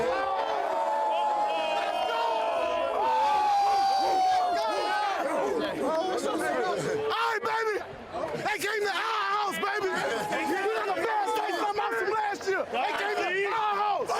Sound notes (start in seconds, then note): 0.0 cheering; 0.0 screaming